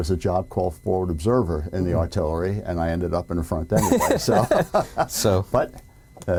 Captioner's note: laughter